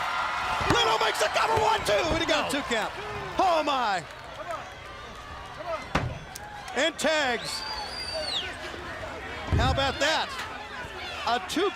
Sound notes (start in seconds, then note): 5.4 crowd cheering